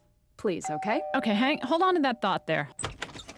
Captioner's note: doorbell rings